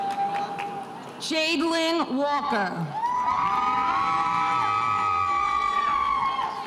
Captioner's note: spectators cheering